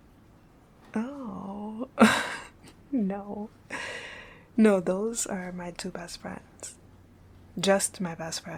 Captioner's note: laughing